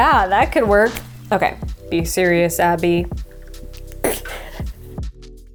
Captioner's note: snickers